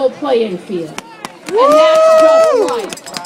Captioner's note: applaud